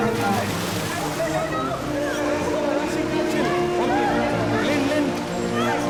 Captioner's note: chattering in foreign language